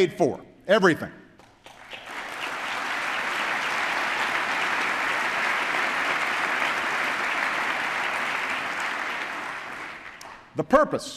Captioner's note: applause